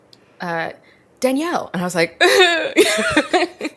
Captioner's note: both laugh; whines